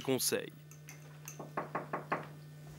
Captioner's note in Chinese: 敲门